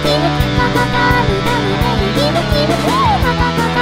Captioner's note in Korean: 끼룩끼룩